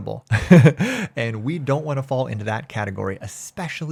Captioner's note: chuckles